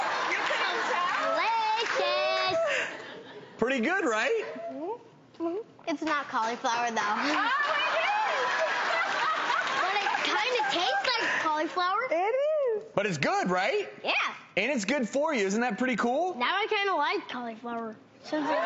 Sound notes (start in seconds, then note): 7.2 crowd applauding; 7.2 laughs